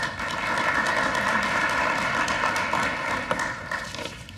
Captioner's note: applause